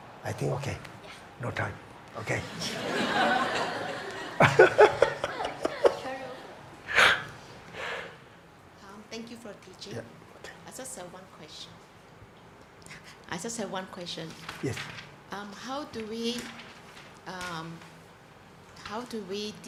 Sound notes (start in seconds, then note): 2.5 audience laughs; 5.0 audience member murmurs; 5.0 laughs